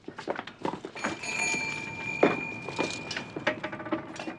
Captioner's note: bells jingling